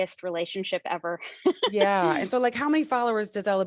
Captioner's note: chuckles